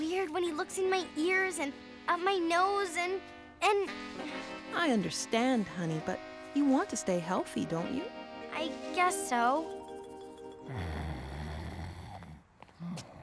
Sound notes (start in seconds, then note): 6.6 snoring